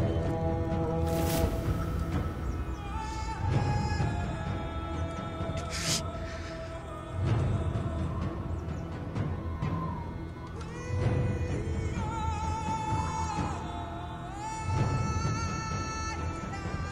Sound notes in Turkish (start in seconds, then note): 2.6 Ağlama Sesi